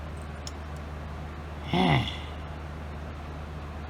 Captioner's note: sighs